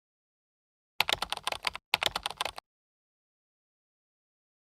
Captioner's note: keyboard clicking